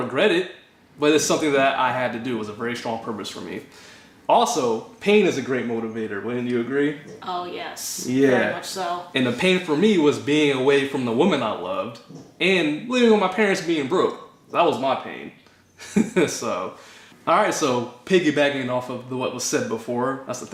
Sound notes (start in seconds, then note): 15.8 laughter